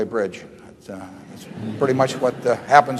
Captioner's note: laughter